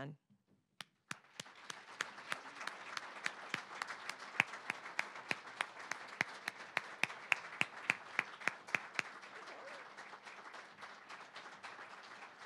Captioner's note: applause